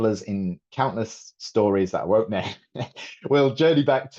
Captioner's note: chuckles